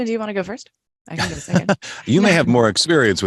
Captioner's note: chuckling